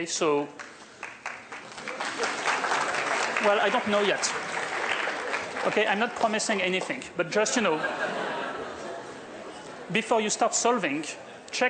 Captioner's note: applause